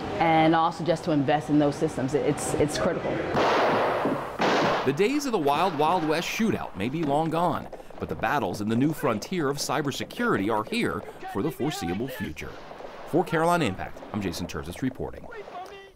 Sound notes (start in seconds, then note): 4.0 gunshots